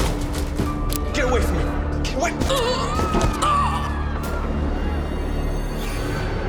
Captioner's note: thumping; grunts